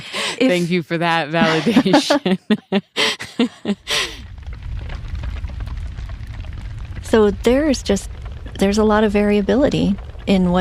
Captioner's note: laughs